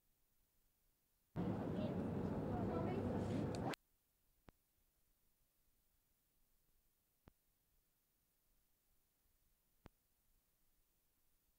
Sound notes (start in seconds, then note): 1.4 street noise